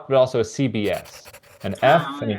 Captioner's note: pencil scribbling